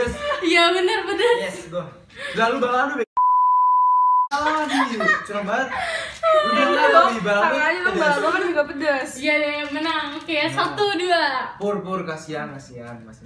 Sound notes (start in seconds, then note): 5.1 laughing n dying